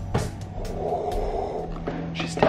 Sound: loudly exhaling

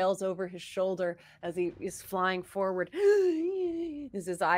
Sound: gasps

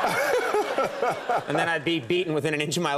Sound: audience laughing

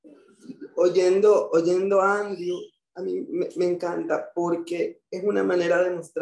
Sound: speaking in foreign language

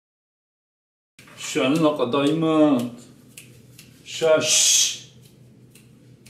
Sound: heavy Turkish accent

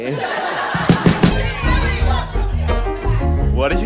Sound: audience shouting

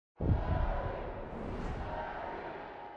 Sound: crowd

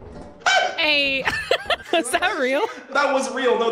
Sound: screams; laughs; others laugh

